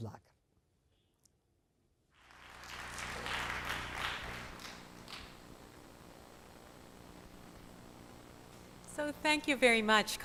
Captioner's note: applause